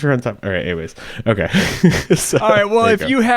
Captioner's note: laughs